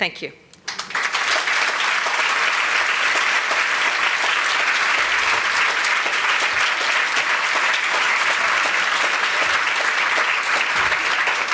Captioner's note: applause